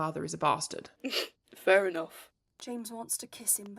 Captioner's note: James snorts